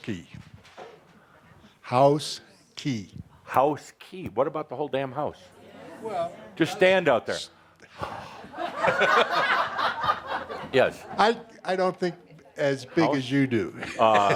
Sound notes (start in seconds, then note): 8.0 laughter as he blows really “big”